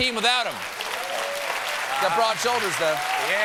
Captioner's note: applause